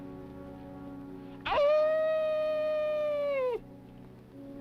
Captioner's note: kid howls